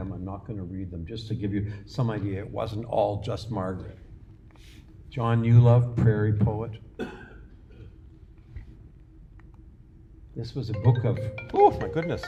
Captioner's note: phone rings